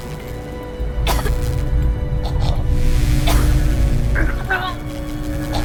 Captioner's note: choking